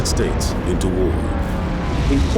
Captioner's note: airplane engines roaring, explosions